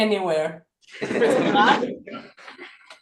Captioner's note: laughter